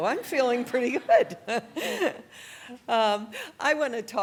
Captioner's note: laughs